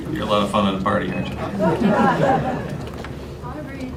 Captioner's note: laughter